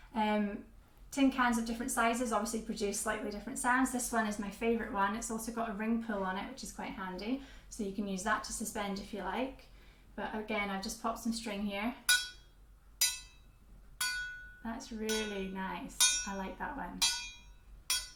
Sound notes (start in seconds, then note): 13.9 soft metallic sounds